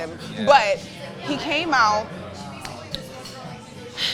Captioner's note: sighs